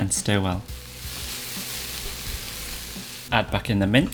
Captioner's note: sizzling sound